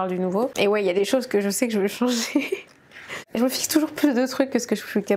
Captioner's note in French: rires